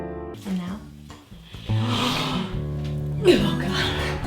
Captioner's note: sniffing noise